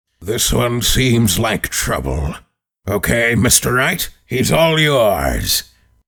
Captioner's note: none